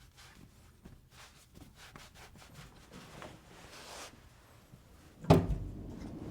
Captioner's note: towel rustling continues